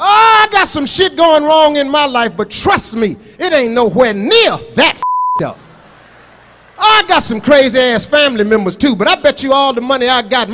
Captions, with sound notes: - Oh, I got some shit going wrong in my life. But, trust me, it ain't nowhere near that (beep) up. Oh, I got some crazy ass family members too. But, I bet you all the money I got,